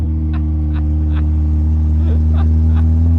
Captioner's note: laughs